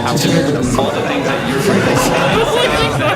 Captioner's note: & Staff laugh